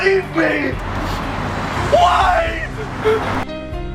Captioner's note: sob